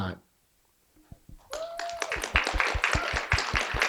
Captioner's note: applause